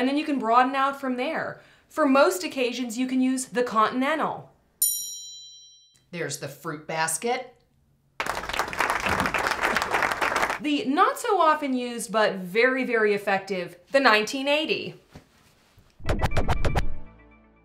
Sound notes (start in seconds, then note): 4.8 A Bell Dings Sound Effect; 8.2 moderate Applause Sound Effect; 15.2 1980 Synthesizer Sound Effect